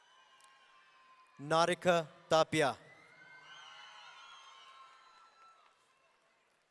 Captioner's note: audience cheering